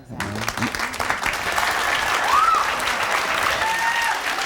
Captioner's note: audience claps